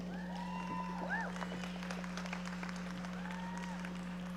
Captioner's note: audience applauding